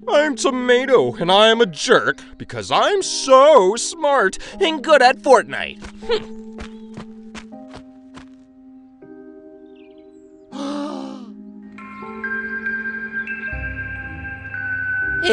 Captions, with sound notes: - I'm a tomato and I am a jerk, because I am so smart and good at fortnight. Hm! (Gasps) (Twinkling music)